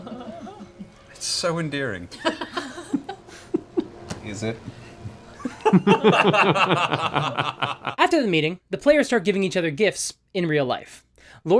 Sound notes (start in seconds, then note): 5.3 laughter